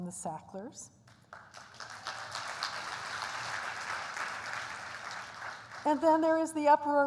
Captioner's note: applause